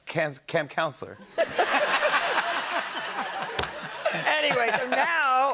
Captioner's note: laughter